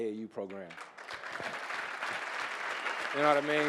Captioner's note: audience applauding